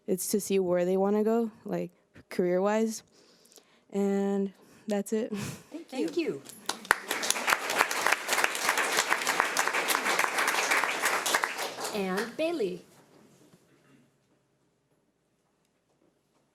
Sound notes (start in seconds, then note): 6.4 audience applauds